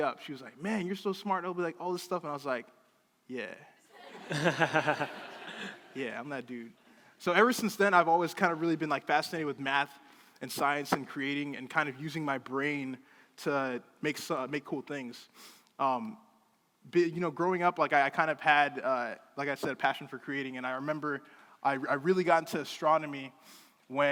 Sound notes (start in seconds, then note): 3.9 crowd laughing